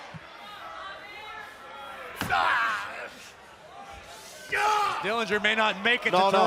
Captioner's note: cheers and applause